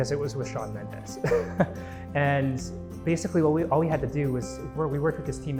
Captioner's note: chuckling